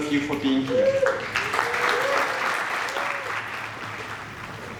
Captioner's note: people applaud and cheer